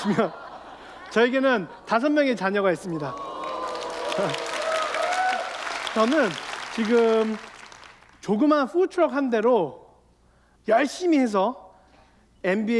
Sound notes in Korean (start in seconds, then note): 2.8 박수와 환호